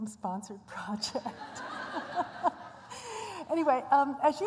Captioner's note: laughter